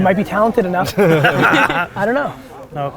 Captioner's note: group laughter